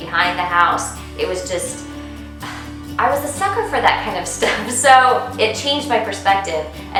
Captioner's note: sigh